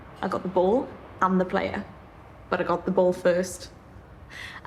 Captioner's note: none